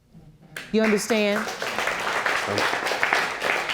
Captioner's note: audience applauding